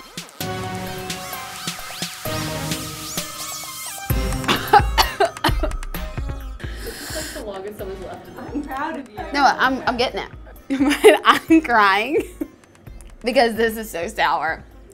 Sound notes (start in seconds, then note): 0.1 dramatic synthesized music; 4.2 coughing; 12.0 laughs